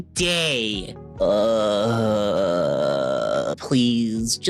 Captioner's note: groans